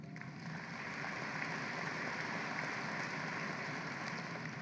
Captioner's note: applause